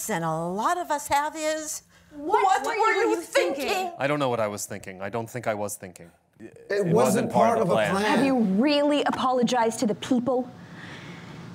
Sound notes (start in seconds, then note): 4.2 voiceover; 6.6 voiceover